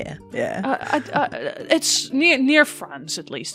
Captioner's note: stammering